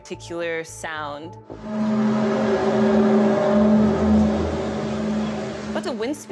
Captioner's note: groaning sound